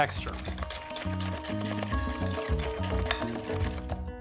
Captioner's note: whisking